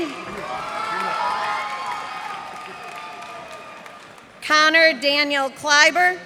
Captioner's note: cheers and applause